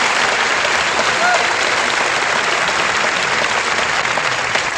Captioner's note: applause